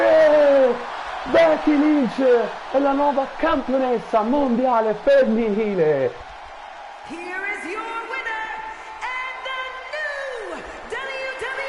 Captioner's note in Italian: Applauso